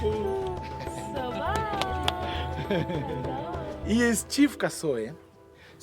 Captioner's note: speaking foreign language